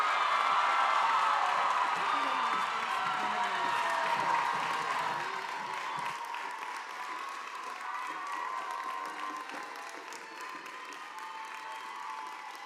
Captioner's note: cheers and applause